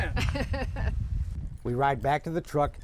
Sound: laughs

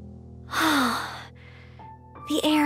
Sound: sigh

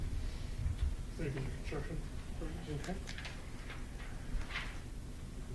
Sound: speaking faintly

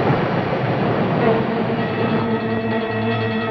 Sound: siren

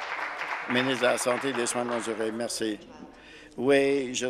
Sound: applause

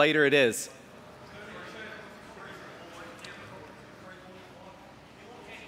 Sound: indistinct chatter

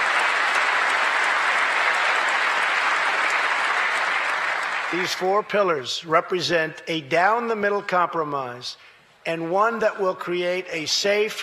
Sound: applause

